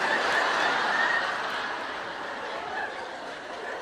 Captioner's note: audience laughs